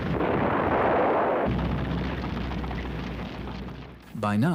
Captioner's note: bomb explodes